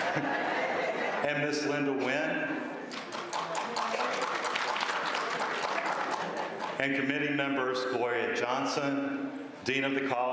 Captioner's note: applause